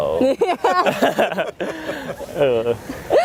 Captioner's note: laughter